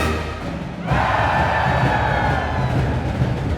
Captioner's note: band playing; crowd cheering